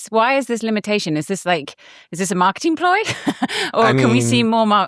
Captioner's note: laughing